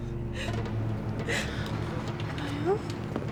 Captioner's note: sobbing